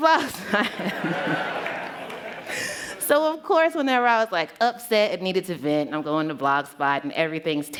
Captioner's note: laughter